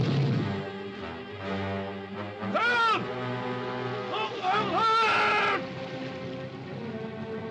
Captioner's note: crocodile roars; man screams; suspenseful music